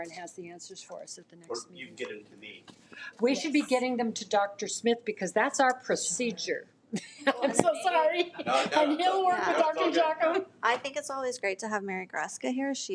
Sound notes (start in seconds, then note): 7.0 laughs